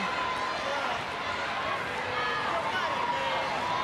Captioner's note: crowd cheering